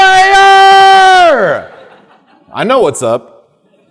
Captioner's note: audience laughing